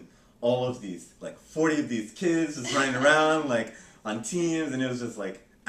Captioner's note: laughter